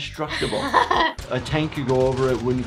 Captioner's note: she laughs